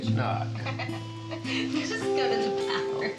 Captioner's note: Tara laughs